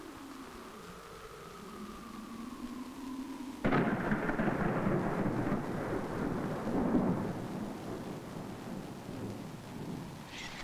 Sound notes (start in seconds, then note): 3.6 Thunder rumbling